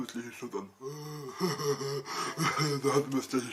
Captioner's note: makes strange sounds to mimic haters